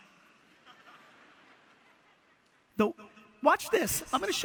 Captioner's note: audience laughter